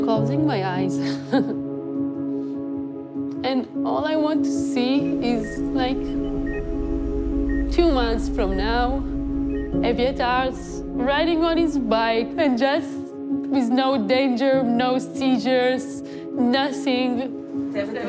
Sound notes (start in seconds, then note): 1.3 chuckles; 5.0 machine beeps